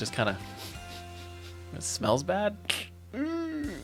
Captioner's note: sniffs